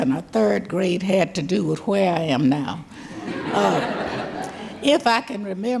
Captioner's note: audience laughing